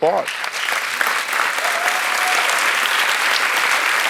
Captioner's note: audience applauds